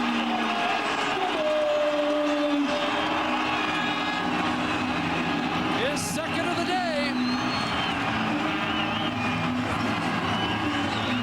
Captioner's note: cheers/Applause